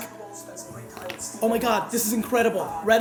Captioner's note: TV plays